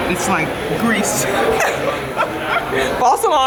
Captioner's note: laughter